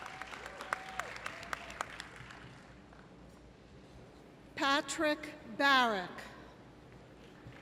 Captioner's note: applause